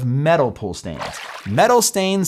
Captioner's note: water splashing